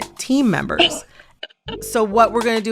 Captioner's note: laughter